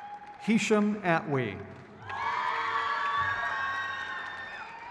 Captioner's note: crowd cheers